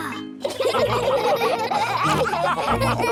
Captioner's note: all laughing